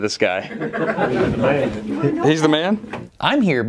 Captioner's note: laughter